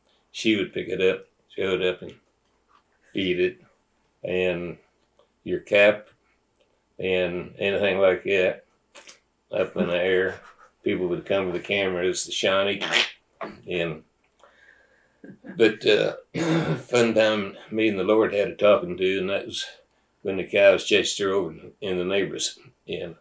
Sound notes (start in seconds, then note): 15.8 laugher